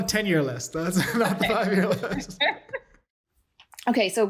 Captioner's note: laughter